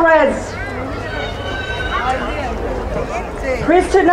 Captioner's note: crowd cheering